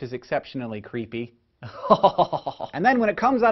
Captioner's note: creepy laugh; 毛骨悚然的笑聲